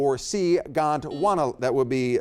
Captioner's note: buzzer beeps